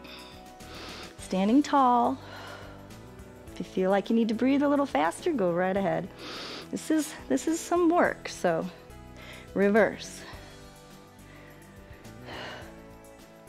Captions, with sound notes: Standing tall. [exhales] If you feel like you need to breathe a little faster, go right ahead. This is some work, so. Reverse.